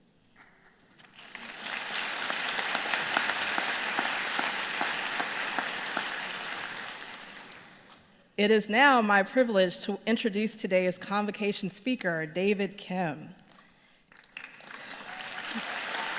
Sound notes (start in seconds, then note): 1.0 applause